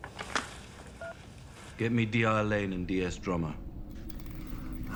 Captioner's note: phone beeps